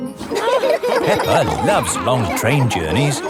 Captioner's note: laughing